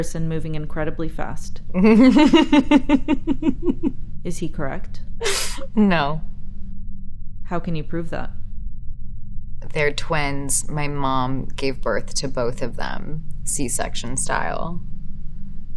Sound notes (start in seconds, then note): 1.8 Elizabeth laughing